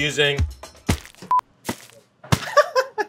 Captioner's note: pack thuds and crinkles; packs thud; laughs